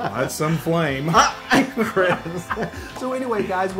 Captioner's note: laugh